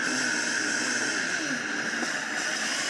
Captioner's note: blender sounds